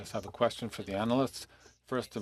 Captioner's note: speaking FRENCH